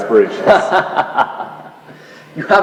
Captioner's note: laughs